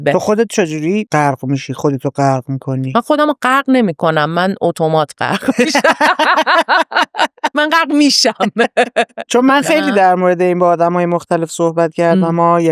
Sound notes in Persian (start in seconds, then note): 5.3 خنده